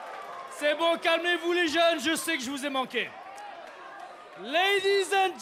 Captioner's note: speaking in foreign language